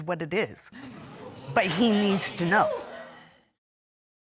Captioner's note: audience chatter indistinctly